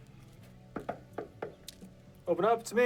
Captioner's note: knocking